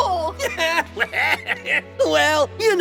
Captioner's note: honkeytonk Giovanni laugh